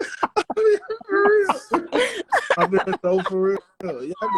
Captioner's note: laughter